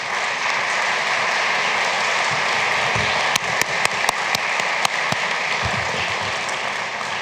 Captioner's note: applause